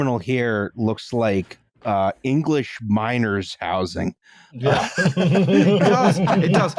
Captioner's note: laughter